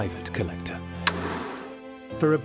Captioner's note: gavel pounds